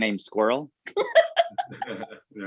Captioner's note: laughing